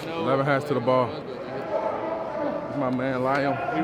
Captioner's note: group chattering